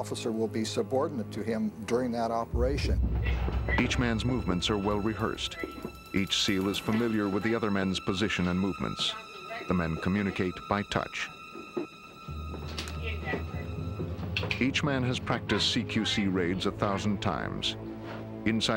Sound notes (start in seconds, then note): 3.9 voiceover